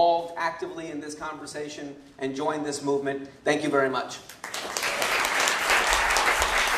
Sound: applause

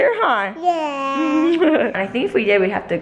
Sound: laughs

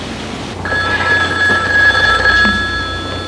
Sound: phone ringing

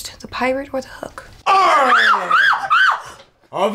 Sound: screams

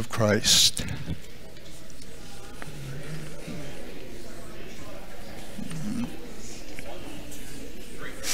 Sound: congregation chattering

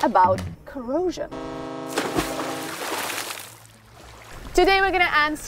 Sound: water splashing

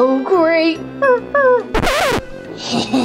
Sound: whimpering; record scratching; sinister laughing

